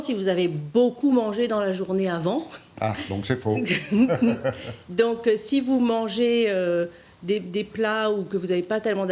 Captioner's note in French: rires